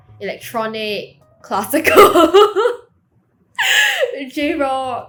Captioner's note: laughs